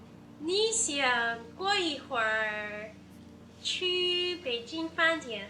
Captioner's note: speaking Chinese